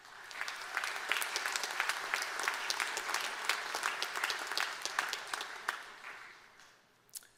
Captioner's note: applause